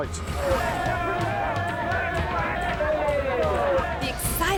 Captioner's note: people chattering